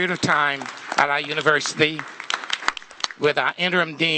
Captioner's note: applause